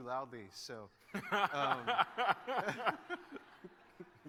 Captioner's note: laughter